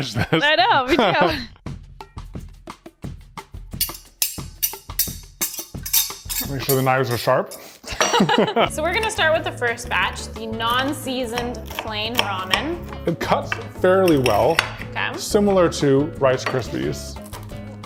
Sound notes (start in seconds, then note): 1.9 upbeat music; 7.8 laughs